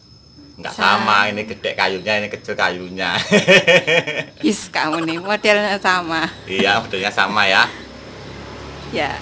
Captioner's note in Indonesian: tertawa bercanda